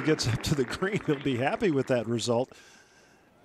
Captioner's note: applause